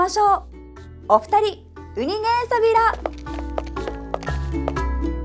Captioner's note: in Okinawan